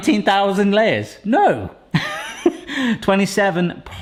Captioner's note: laughs